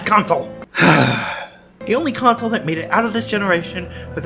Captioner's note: sigh